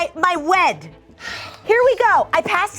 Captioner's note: sighing